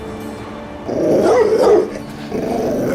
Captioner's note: dog barking